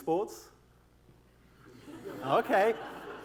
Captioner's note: laughter